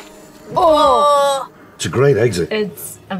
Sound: groaning

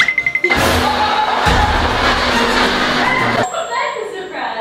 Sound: laughing

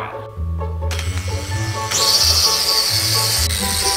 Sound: mechanical Whirring

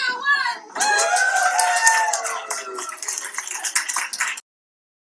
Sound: cheering and applause

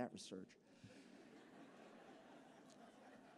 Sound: laughter

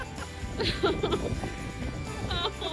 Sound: laughs; cameraperson laughs

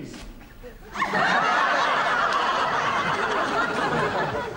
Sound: audience laughs

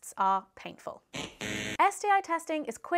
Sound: buzzer buzzing

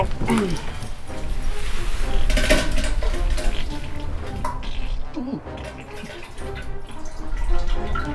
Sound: the sounds of a deuce being dropped

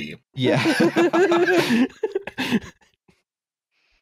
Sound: laughter

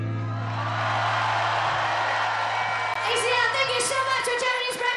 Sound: audience cheering; audience applauding

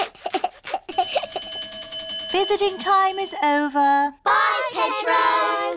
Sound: giggles; bell rings

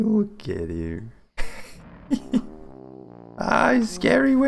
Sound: giggles

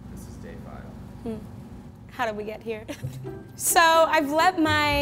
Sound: laughs

